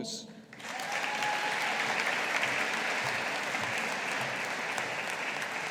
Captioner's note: audience applauding